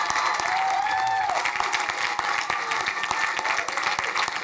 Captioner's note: crowd cheering